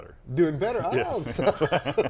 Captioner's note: laughs